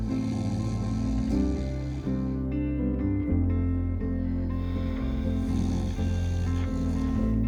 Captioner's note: gentle music continues; Aren snoring continues